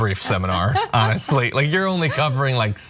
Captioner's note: laugh